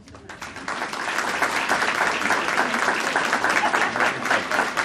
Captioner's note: audience applauding